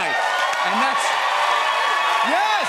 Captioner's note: cheers and applause